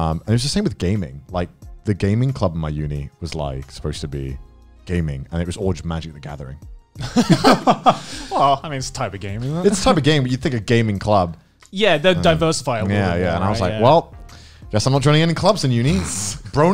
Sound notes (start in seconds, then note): 7.0 laughing